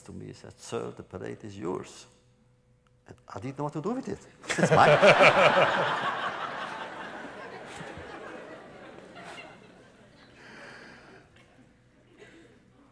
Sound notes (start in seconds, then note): 7.5 laughter